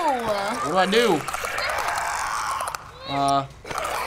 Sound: Clicker growls; Clicker snarls

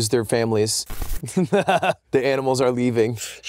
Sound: laughs maniacally

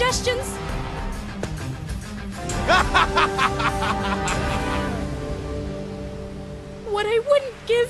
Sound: laughs

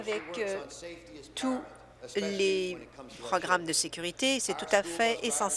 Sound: applause

